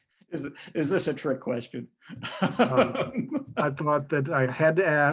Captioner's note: laughs